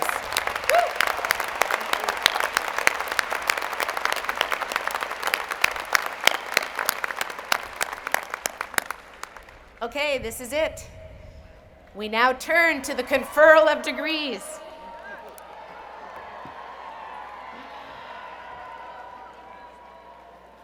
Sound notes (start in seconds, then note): 5.5 applause; 18.1 cheering